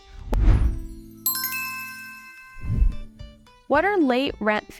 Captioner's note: bells chiming